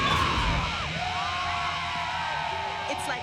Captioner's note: fans screaming